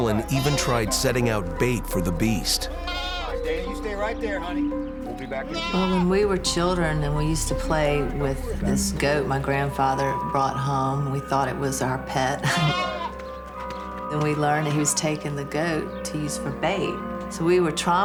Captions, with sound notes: Harlan even tried setting out bait for the beast. When we were children we used to play with this goat that my grandfather brought home, we thought it was our pet (laughs). Then we learned he was taking the goat to use for bait.